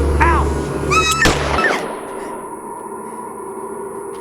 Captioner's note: screams; gunshot